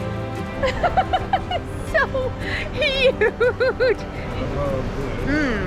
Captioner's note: laughs